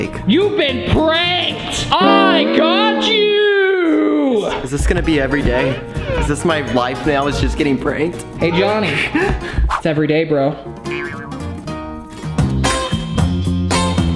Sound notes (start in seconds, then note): 8.4 laughing; 10.8 upbeat music